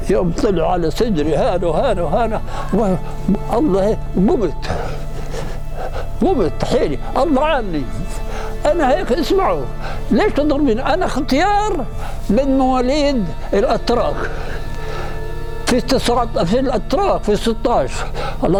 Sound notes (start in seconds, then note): none